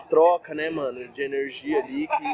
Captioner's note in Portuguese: barulho da plateia se dispersando ao fundo